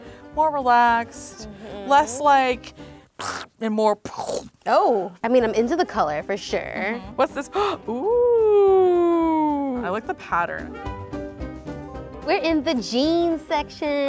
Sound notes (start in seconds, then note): 3.0 mimics explosion; 7.5 gasps